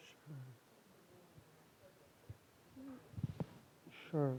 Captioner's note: student speaking faintly